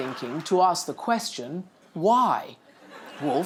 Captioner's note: laughter